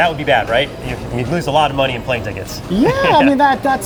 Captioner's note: laughs